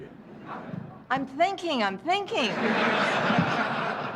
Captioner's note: laughter